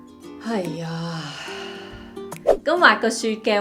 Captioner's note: deep sigh